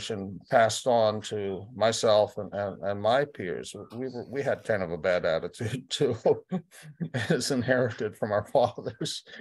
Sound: laughter

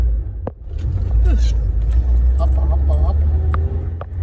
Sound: car Stuttering

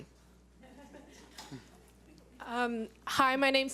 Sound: laughs

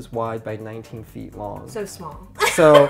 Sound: laughs

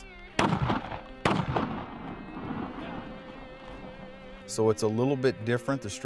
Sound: gunshots

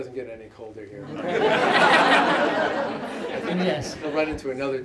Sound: laughter

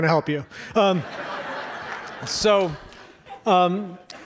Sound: audience laughs

